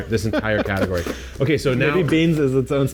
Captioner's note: laughs